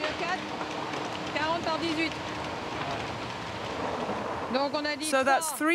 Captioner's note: speaking in foreign language